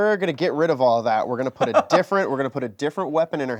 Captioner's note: laughs